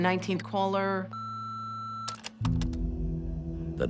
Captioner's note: beeping